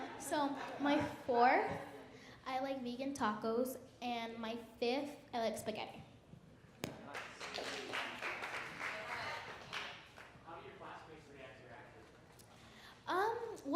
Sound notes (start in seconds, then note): 7.1 audience applause